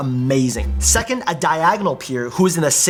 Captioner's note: technical blip sound